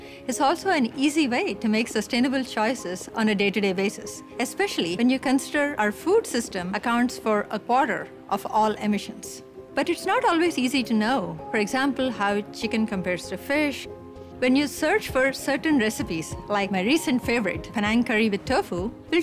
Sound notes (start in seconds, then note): none